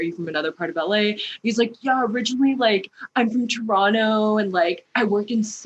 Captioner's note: fratty voice